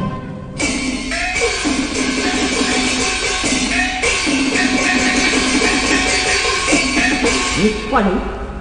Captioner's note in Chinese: 內場經過，廝殺聲